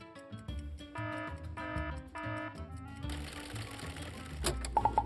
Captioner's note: alarm ringing